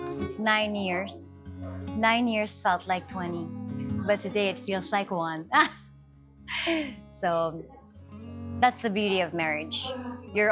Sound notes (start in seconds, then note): 6.5 laughs